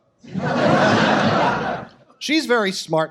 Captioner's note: audience laughs